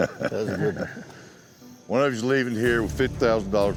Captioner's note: laughter